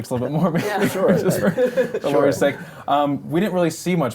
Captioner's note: laughter